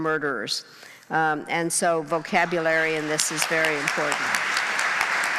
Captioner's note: applause